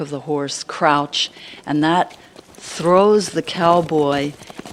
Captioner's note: galloping sound effect